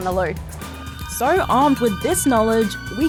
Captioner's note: all scream